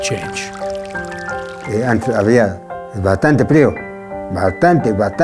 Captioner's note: speaks Spanish